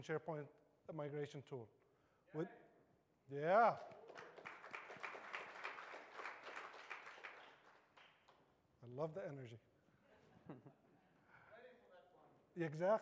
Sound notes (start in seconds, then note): 8.0 applause